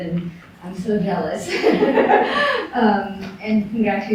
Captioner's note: laughter